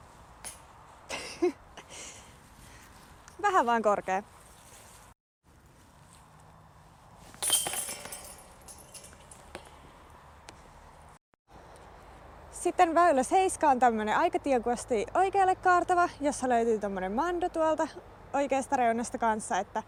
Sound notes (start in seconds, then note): 1.1 laughs